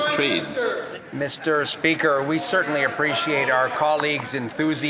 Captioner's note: some Applause